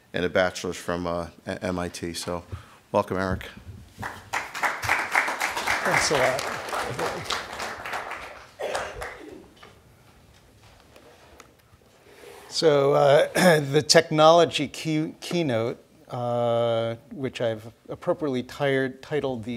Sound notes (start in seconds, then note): 4.0 audience clapping